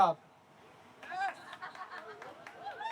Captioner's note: laughter